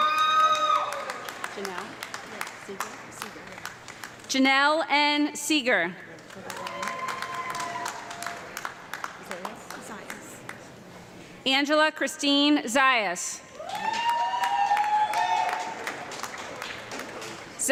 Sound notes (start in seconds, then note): 0.0 audience clapping and yelling; 6.1 audience clapping and cheering; 13.5 audience clapping and cheering